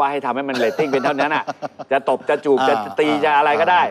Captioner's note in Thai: หัวเราะ